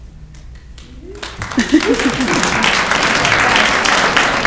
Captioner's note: clapping